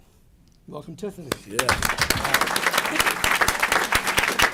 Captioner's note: applause